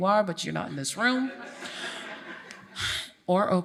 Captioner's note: audience laughs